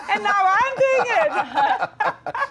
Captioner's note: laughing